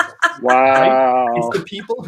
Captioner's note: laughs